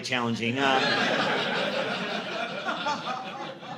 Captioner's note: audience laughing